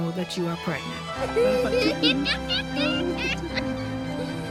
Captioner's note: laughter and giggling